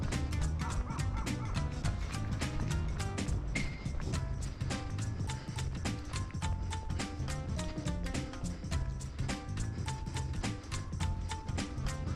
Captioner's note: laughs